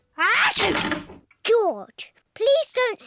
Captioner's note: sneezes